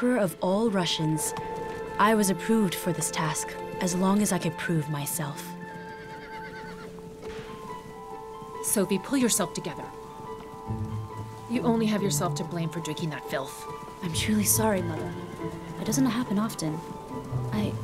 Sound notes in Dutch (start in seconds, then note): 5.7 paard hinnikt